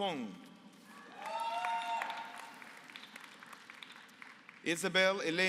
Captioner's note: applause